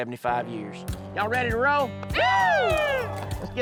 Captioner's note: crowd cheering